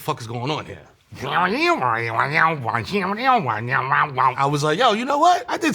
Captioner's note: Mero vocalizing electronic music